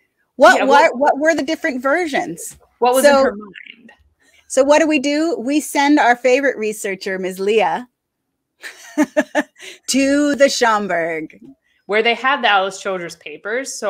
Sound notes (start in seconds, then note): 8.7 laughs